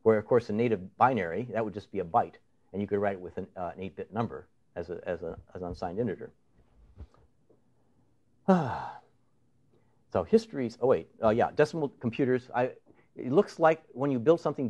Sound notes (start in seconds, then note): 8.4 sighs